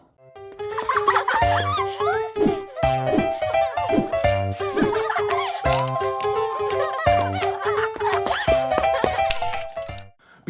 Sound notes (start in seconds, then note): 0.4 piano music; 0.8 children laughing